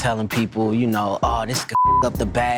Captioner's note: beep